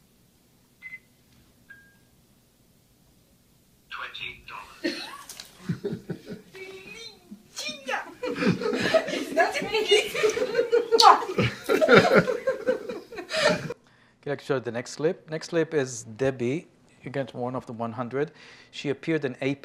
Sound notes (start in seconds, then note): 6.4 speaking portuguese; 11.8 laughter